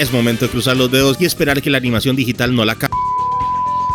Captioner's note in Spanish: sonido de censura